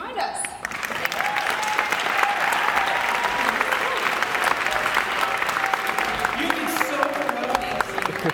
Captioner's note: loud Applause